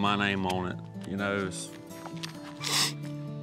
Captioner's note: sniffs